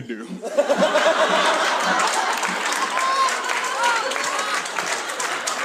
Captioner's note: audience laughs and applauds